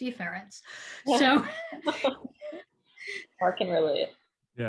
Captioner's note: laughs